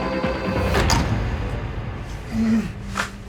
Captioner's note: door opened